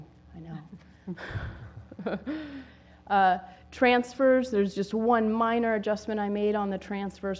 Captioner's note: laugh